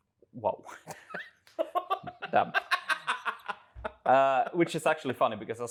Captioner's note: laughs